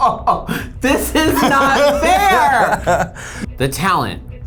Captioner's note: laughs